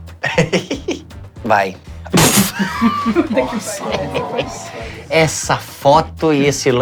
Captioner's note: risos